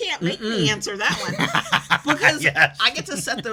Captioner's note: laughs